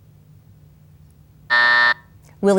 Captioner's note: timer buzzes